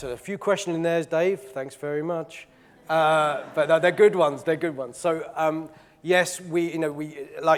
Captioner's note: audience laughing